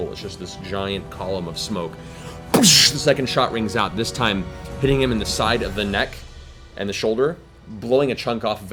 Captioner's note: gunshot